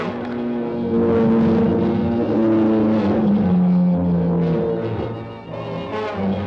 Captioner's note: lizard bellowing; dramatic music